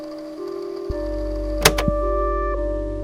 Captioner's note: click